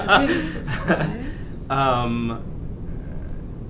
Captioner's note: laughs